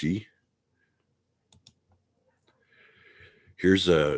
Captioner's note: mouse clicking